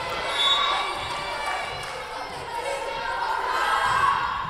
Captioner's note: whistle blowing